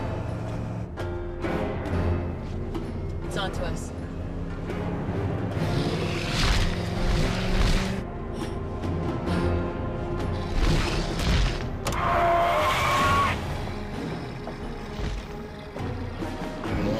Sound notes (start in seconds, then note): 0.1 suspenseful music; 5.6 suspenseful music; 10.4 sphinx growling; 11.9 tires screeching; 13.9 sphinx snarling